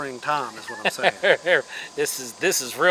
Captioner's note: laughs